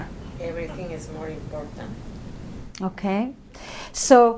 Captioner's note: voiceover